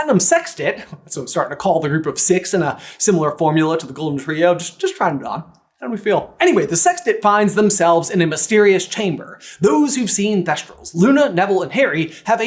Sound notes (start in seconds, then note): 0.8 chuckle